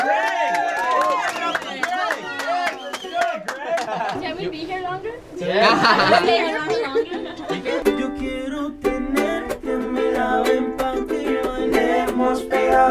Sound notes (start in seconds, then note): 0.0 girls cheer; 5.4 laughs